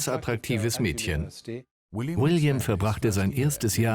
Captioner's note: voiceover